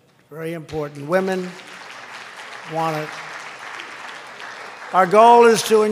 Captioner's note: applause